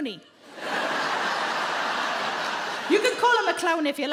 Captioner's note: audience laughing